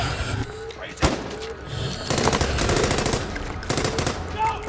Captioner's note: gunshots blasting